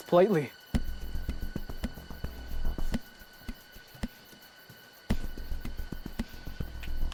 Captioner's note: crickets chirping; suspenseful music continues